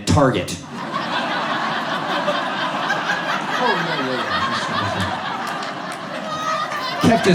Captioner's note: audience laughs